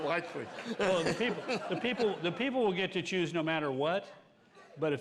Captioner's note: laughter